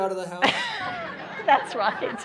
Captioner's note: laughing